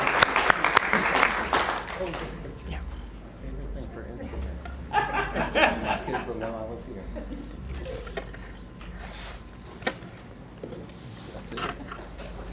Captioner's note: applause